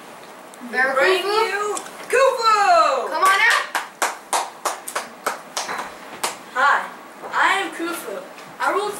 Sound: clapping

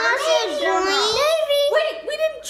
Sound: overlapping chatter

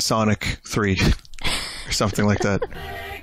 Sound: laughs

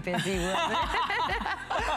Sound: laughter

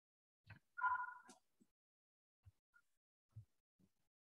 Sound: phone ringing

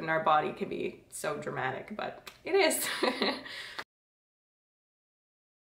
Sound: laughs

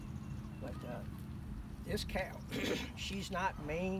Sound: clears throat

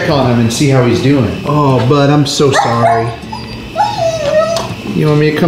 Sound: Sonic whimpering

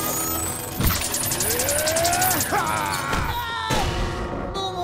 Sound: screaming; groaning

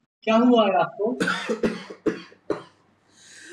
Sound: coughs

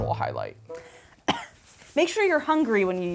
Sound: coughing

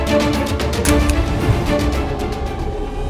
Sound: stapling

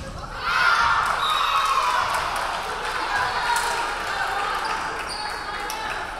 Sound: referee whistling; crowd clapping

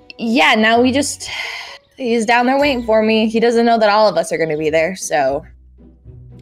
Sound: sigh

